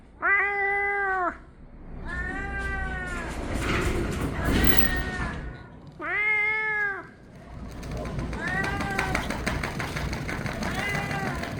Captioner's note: Meowing from Gina and Garfield